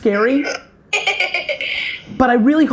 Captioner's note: laughing